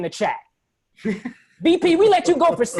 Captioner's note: laughter